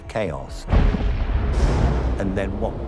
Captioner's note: thunder rumbling